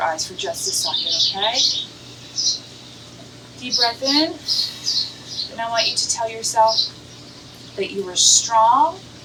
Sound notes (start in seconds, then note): 2.1 calming ambient music; 5.1 bird chirps